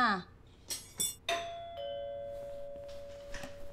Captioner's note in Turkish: Kapı zili sesi